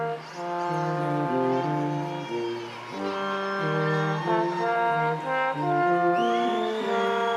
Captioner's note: instrumental music continues; crowd applauding